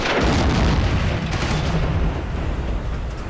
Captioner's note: gunshot